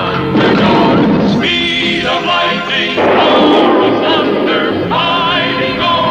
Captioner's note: explosion; lighting Strikes